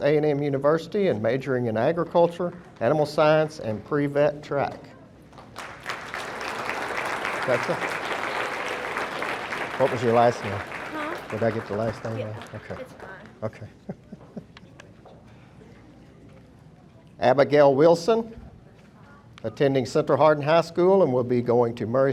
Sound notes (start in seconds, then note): 4.7 audience applauding; 13.4 chuckling